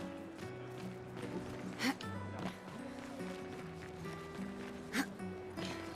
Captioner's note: laughing